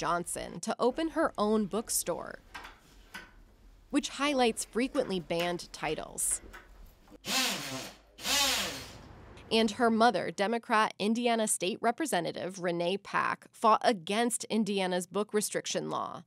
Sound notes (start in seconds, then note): 7.2 drill whirring